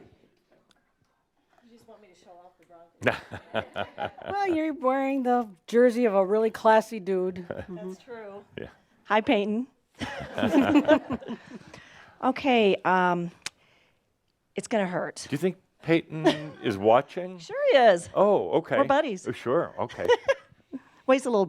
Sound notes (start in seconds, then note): 12.7 they chuckle; 20.0 she giggles